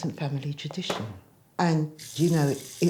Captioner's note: faucet running